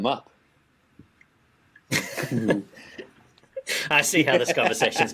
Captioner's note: laughing